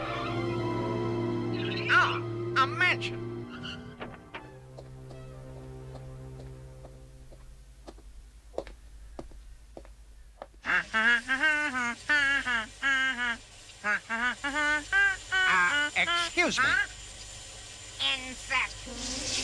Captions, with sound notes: AH! A MANSION! (HUMMING) UH... EXCUSE ME. HUH! INSECT!